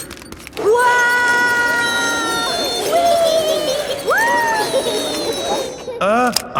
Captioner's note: all yelling